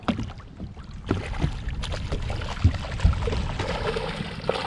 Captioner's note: fish splashing